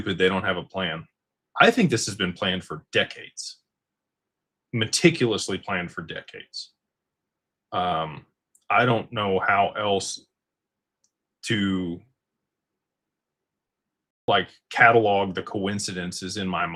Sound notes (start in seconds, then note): none